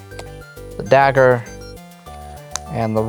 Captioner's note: card slaps; card slaps